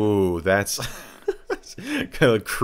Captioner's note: laughing